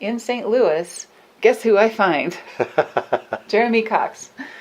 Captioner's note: laughs